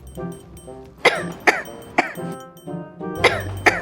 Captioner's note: coughs